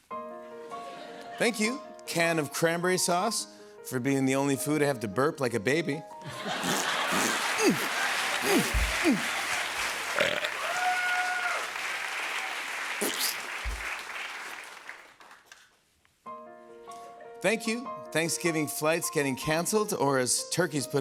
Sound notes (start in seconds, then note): 0.0 piano music plays; 7.0 squishes, grunts; 10.0 burps; 11.5 cheers and applause; 13.0 squishing; 16.3 piano music plays